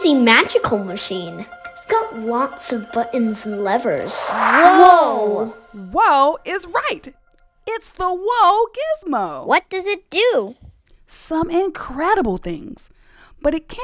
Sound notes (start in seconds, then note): 3.9 whoosh sound